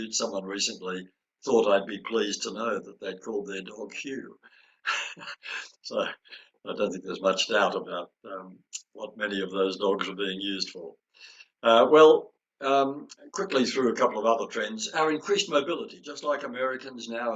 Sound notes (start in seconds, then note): 4.8 chuckles